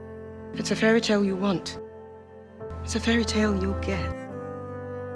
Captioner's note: voiceover